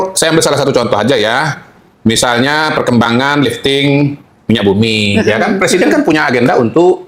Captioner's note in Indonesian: tertawa